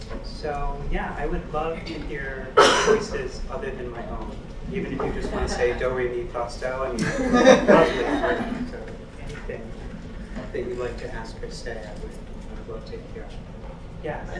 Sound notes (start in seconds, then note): 6.9 laugh